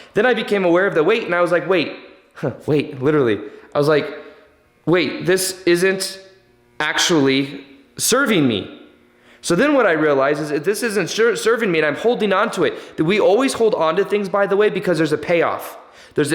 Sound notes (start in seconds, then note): 2.0 laughs